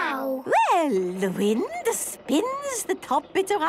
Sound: none

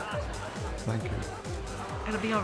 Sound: people chatter and laugh

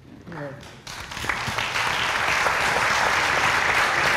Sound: applause

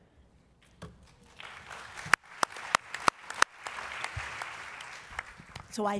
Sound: applause

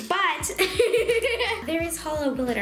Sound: laughing

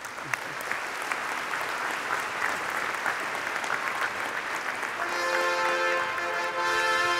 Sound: applause

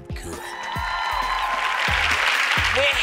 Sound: applause

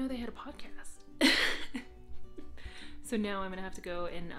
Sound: laughing

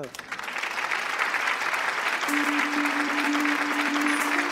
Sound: applause

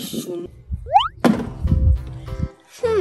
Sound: sliding whistle sound

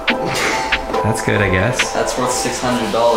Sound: people laughing

